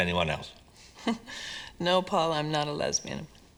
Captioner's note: chuckles